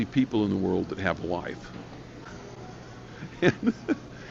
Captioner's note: laughing